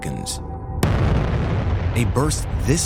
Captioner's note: explosion